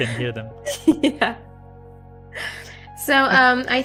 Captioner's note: laughs